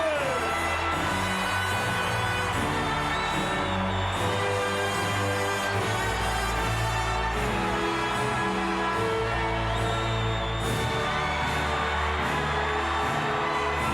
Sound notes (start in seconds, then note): 0.8 band music plays; 3.4 crowd cheers and whistles